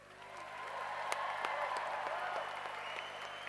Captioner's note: cheering